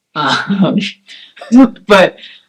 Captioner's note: laugh